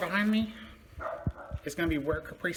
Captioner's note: dogs continue barking